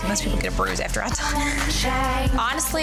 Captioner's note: laughing